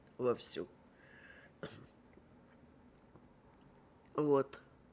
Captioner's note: throat-sound